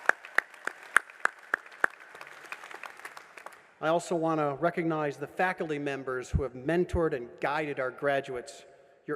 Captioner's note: applause